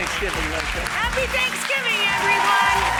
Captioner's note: audience cheers and applauds